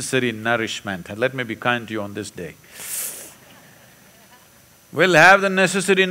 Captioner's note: few laugh